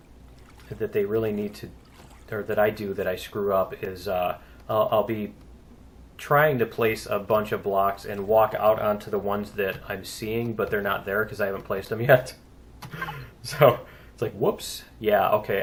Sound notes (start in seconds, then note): 12.8 laughs